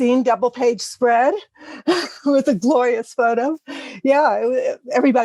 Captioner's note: laugh